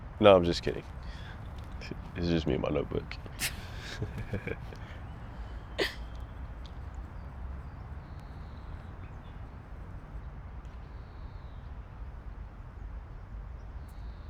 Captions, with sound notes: No, I'm just kidding. It's just me and my notebook. [laughs]